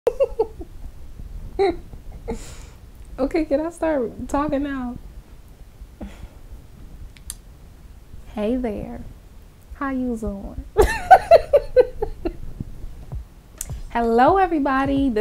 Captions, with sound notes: (laughing) Okay can I start talking now hey there how you doing (laughter) Hello everybody